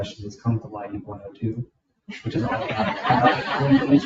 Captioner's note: faintly speaking; people laughing